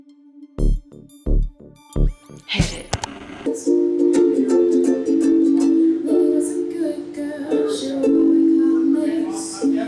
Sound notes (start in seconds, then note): 0.0 funky beats; 2.9 static; 2.9 ka-chunk